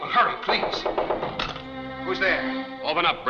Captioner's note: knocking on door